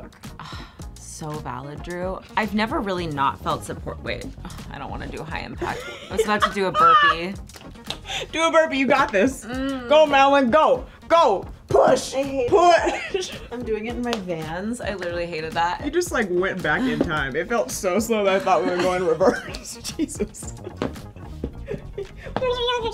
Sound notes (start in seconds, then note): 5.7 laughs; 9.4 grunts; 21.5 laughs; 22.7 speaks in reverse